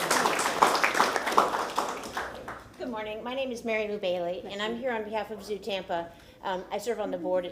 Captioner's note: applause